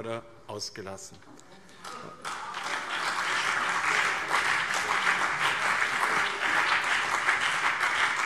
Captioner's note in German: Beifall BÜNDNIS 90/DIE GRÜNEN und CDU - Zuruf SPD: Oh Mann!